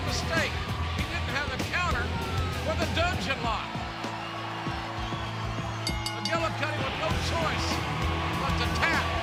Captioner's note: bell ringing